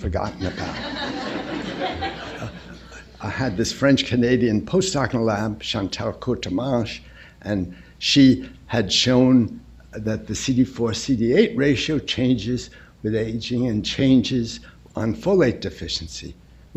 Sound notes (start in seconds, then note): 0.3 laughter